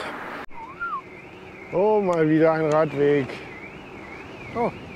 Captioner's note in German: Alarmanlage